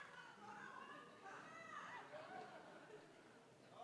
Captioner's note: audience laughing